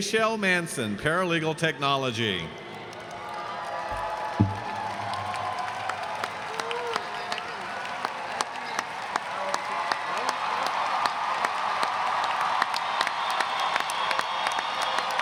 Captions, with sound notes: Nachelle Manson, Paralegal Technology. (audience applauds and cheers)